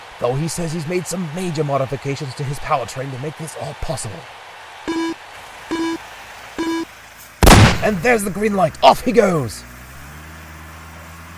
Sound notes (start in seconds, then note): 7.4 gunshot; 10.1 truck noises